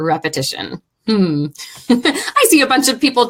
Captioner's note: laughing